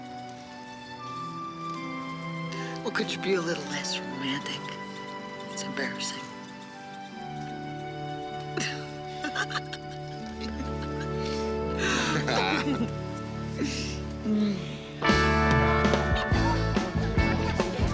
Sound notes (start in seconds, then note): 8.5 both laughing; 15.2 country music